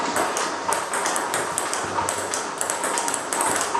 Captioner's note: ball ping pong hitting